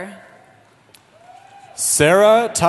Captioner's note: cheering